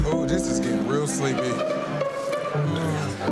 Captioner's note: people chattering